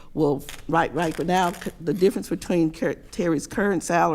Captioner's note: paper tearing